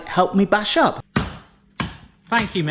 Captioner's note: rolling pin bashing